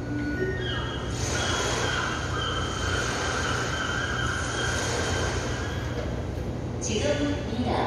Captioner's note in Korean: 갈매기, 파도 소리